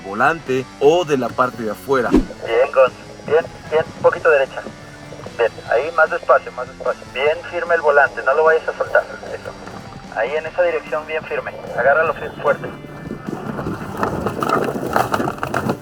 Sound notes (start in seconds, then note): 2.2 voice in radio